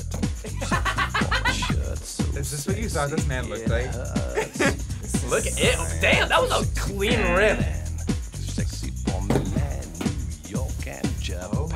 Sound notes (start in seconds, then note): 0.4 laughs; 4.7 laughs